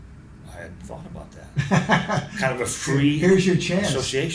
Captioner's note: laughs